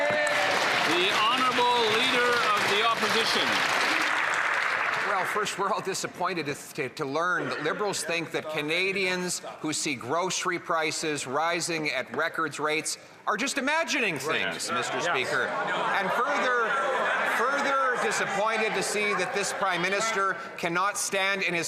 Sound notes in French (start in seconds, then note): 7.6 voix de l'interprète